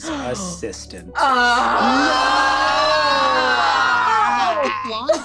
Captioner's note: all exclaim